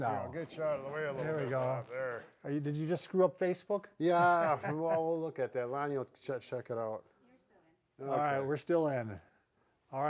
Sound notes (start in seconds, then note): 4.1 laughs